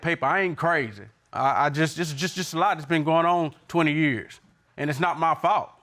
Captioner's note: stuttering